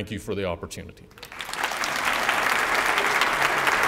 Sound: applause

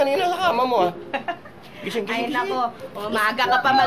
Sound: laughs

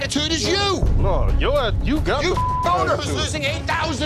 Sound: beep

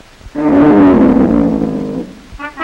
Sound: groaning

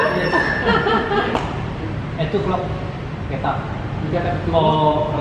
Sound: speaks Indonesian

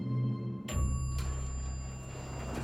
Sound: elevator bell dings

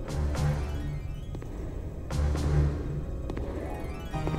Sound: heavy footsteps

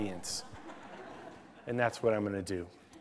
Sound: laughter

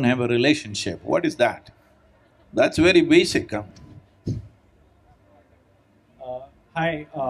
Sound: laughs

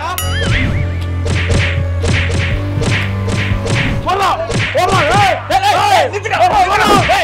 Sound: blind Folded hitting

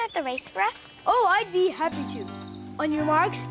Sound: Imitating Barney

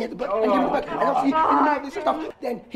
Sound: Boysewicks groan

